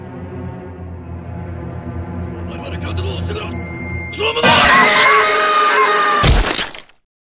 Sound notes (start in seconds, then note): 2.1 japanese; 4.4 screaming in pain